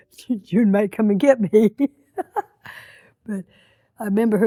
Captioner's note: laughs